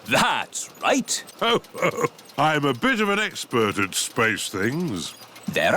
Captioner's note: chuckles